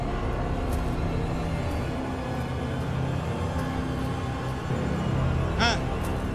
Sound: Zhozef speaking in foreign language

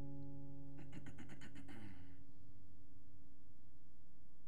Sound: throat clearing

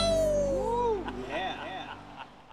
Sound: man laughing

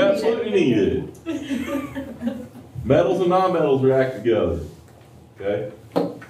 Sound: laughter

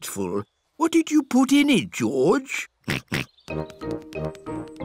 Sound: snorts

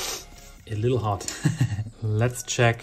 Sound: chuckles

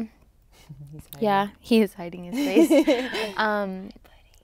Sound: laughs

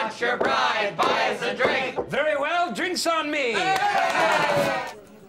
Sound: all cheer

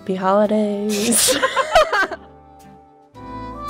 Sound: laughs

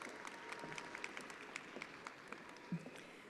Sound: attendees applauding

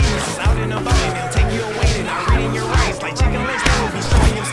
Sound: zombies screaming

